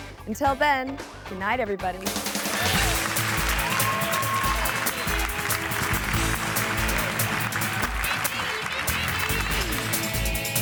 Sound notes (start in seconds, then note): 2.0 audience claps and cheers; 2.0 upbeat music